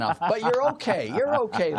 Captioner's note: laughter